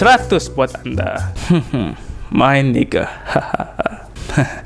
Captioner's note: laughing a little